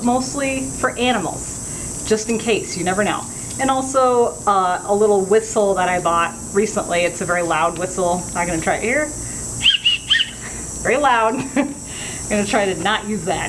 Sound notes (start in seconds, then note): 9.6 soft whistle noises